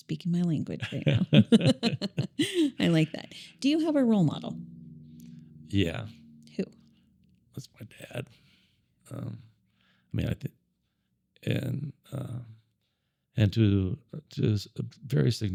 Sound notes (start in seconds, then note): 0.8 both laughing